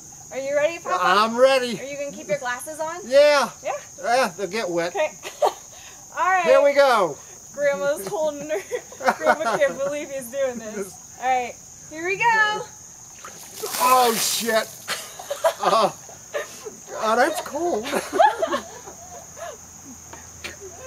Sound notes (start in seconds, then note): 5.4 laughs; 8.4 laughs; 13.7 laughs; 18.3 general laughing